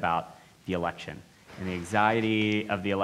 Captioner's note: laughs